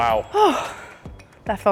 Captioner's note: sighs